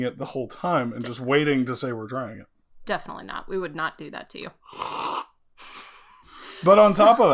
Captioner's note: sips